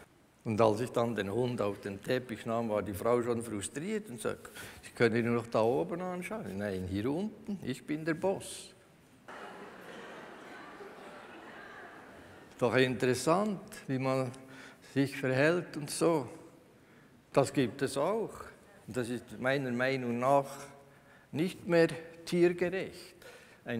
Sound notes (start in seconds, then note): 9.3 laughter from the audience